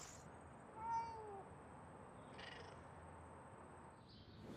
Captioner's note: cat meowing